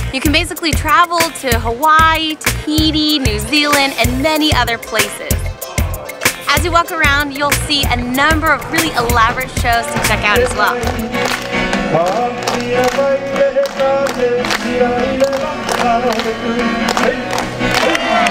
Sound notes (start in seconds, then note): 12.0 clapping; 13.2 island music